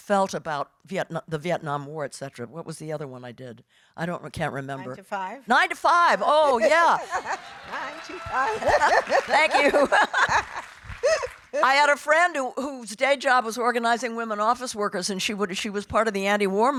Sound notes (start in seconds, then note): 6.2 laughing; 9.6 audience applauding